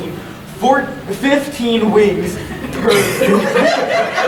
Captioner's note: audience laughing